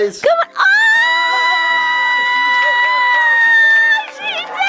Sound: excited squealing

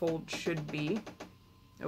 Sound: creaking door

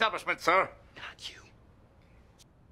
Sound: whispered

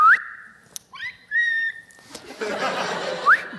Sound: whistling; mimics with high voice; whistling

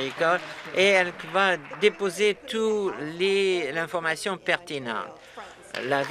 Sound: applause

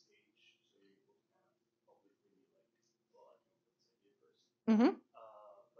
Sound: student speaking faintly

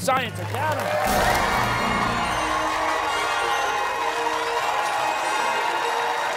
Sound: cheers and applause

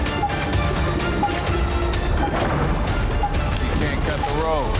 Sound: urgent music; digital beeping

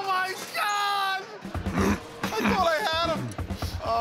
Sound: coughs

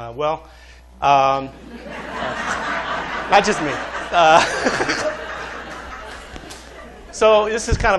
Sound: laughter

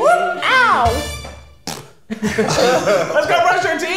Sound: whoops; mimics fart; all laugh

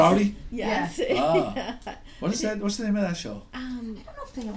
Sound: voiceover

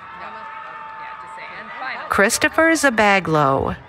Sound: cheering

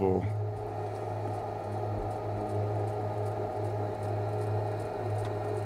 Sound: pottery wheel whirring

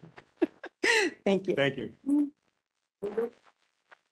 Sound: laughing

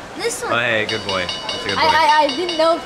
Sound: dinging

